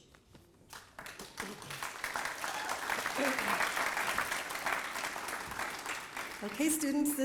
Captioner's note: applause